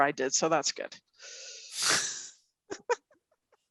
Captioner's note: laughs